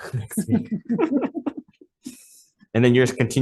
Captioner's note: laughs